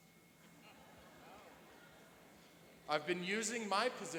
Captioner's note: laughing